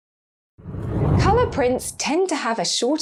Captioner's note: whooshing air